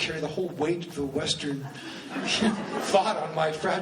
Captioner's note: laughing; laughs